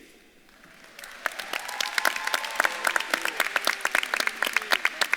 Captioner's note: audience claps and cheers